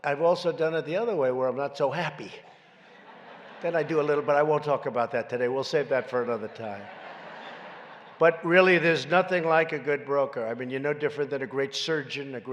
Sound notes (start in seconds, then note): 2.6 laughter